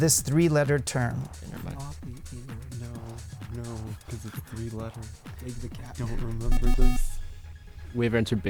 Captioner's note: wispering